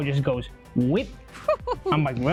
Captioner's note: laughs